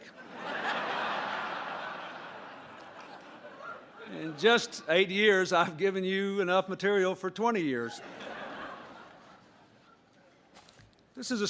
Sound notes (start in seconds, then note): 0.0 applause; 0.0 laughter